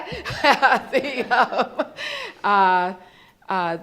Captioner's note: laughs